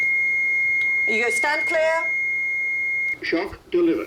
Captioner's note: defibrillator beeping